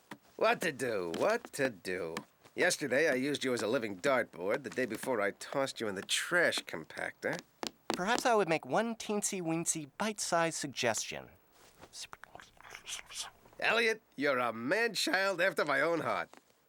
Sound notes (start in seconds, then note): 11.9 whispering